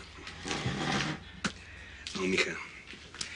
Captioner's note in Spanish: Ruido con la silla